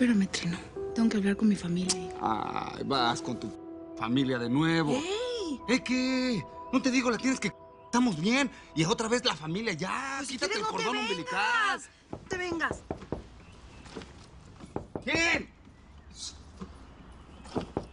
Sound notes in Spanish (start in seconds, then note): 14.6 Toques en la puerta; 15.6 Gritando